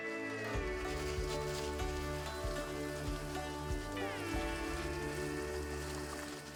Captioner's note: gentle music; water splashing